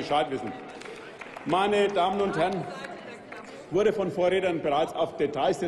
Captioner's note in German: Applaus